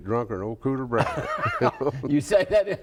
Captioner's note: both laugh